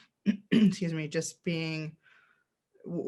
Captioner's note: clears throat